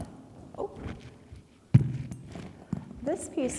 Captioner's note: mic thuds